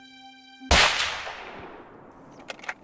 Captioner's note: shot